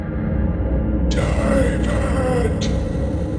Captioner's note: ghostly Voice